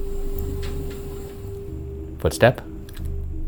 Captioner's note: mysterious footstep creaking